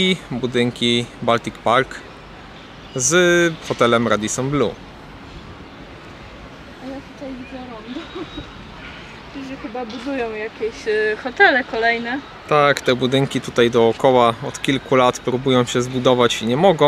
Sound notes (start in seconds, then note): 7.9 laughter